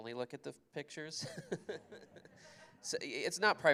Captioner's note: laughter